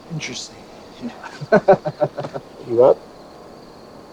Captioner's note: both laughing